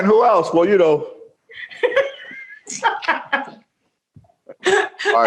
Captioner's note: laughter